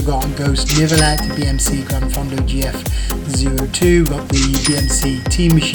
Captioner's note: dings